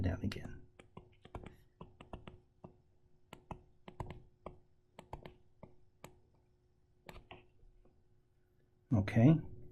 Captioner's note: tapping Sounds